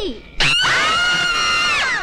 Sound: screaming

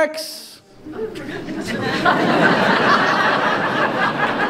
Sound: audience laughs

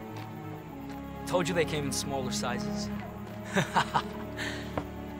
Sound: laughs

